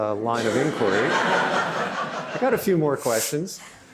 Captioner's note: laughter